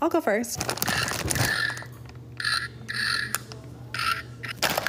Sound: oinking sound effect

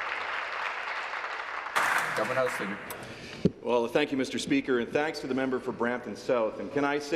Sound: applause

